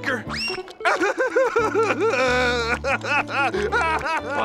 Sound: sobbing

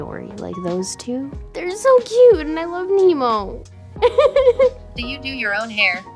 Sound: giggles

